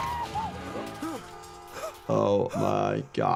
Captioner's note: animals screaming; horns blaring